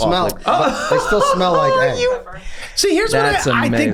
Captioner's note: Glenn laughs